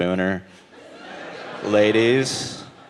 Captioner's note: audience laughing